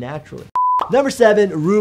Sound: video beeping

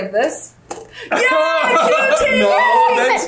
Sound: laughs

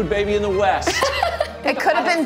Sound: laughs

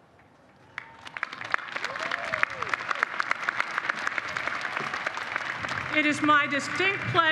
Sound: applause

